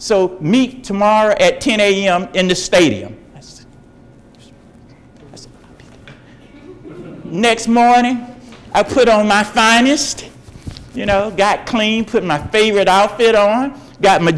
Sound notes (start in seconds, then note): 3.8 talking quietly